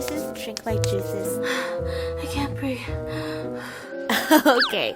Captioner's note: heavy breathing